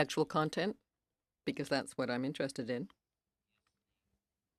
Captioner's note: speaking French